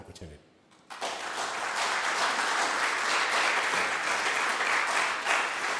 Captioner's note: audience members applauding